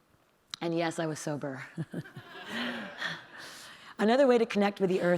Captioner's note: audience laughing